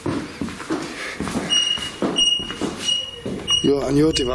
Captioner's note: device beeping rhythmically